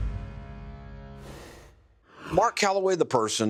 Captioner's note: rushing sound plays